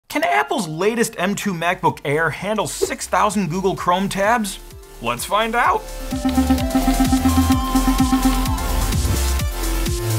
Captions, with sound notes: - Can Apple's latest M2 MacBook Air handle 6,000 Google Chrome tabs? Let's find out. (electronic music) (pixels chime)